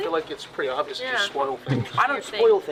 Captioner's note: laughs